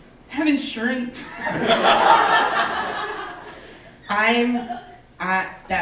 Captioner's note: audience laughing